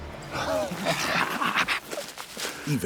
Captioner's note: bartram laughs